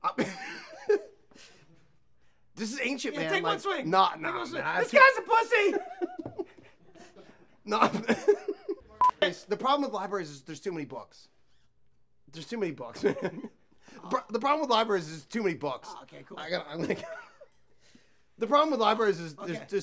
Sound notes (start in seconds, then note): 0.2 laughs; 5.4 laughs; 16.7 laughs